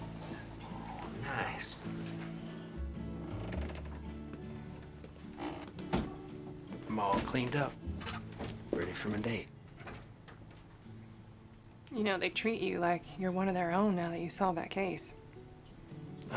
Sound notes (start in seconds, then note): 3.2 door opens, closes